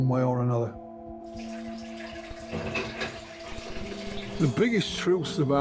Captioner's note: water rushing